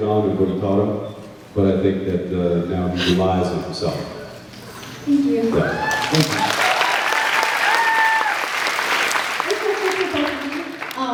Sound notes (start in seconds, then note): 5.4 cheers, applauds